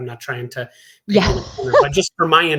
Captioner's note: laughs